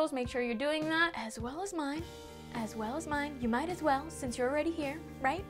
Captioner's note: whispering